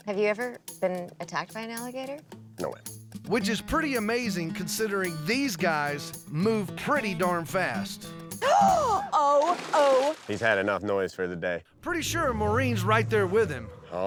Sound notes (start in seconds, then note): 8.4 gasps